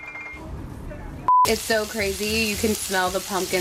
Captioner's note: piano tinkling; shrimp sizzling